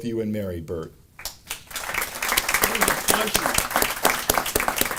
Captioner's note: audience applauding